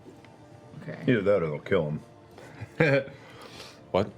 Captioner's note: fake laugh